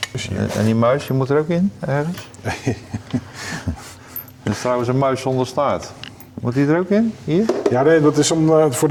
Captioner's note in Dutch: gelach